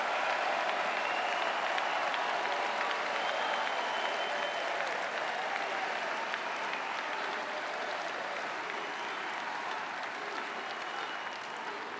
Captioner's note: cheering and Applause